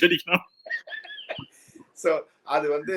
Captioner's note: laughs